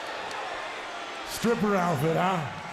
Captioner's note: crowd chatter